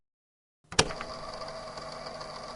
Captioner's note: click